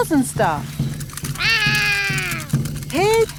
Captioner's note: roaring